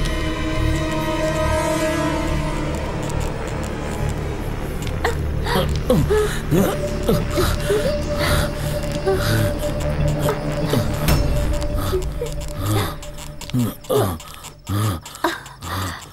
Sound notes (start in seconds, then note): 5.0 moaning